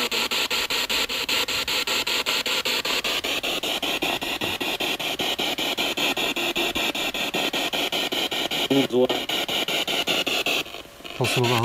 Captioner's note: radio noise from the spirit box